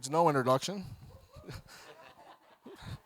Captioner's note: audience laughing